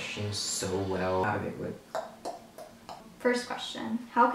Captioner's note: clicks tongue